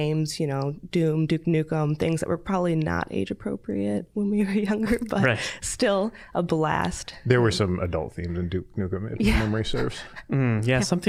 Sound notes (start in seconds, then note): 6.6 chuckling